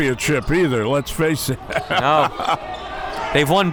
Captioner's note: laughs